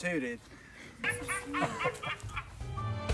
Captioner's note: laughing